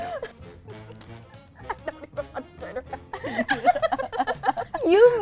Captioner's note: laughing